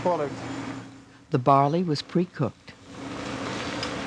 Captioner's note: voiceover